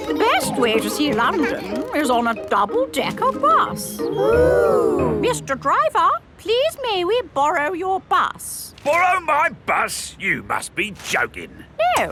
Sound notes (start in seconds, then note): 4.2 kids gasps in awe